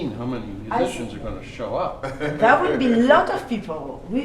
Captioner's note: laughs